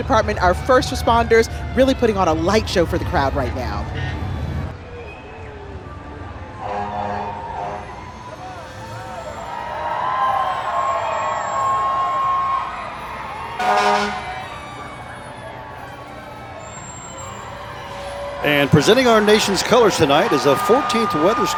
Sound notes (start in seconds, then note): 4.8 sirens in background; 7.7 fire truck honking; 10.0 crowd cheering; 14.3 fire truck honking